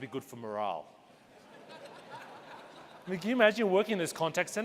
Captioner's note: audience laughing